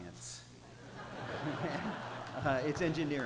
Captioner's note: laughter